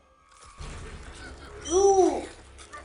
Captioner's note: show audio: slobbering noises and guards screaming